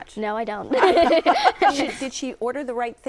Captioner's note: laughter